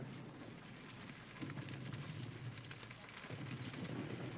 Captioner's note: fire crackling